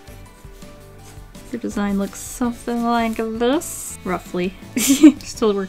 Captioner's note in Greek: Γέλια